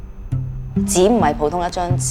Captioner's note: Cantonese